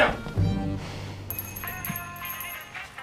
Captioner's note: running footsteps; doorbell jingles, drucinda sighs; cell phone rings